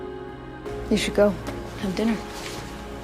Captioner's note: voiceover